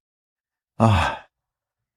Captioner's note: sigh